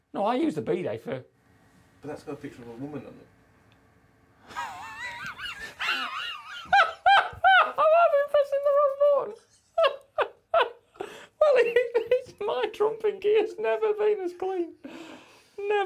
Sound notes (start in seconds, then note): 4.4 laughter; 11.0 laughs